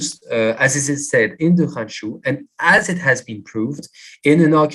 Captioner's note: non-english